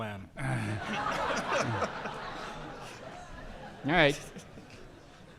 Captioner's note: audience laughing; groaning